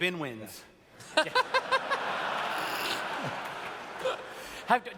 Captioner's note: laughter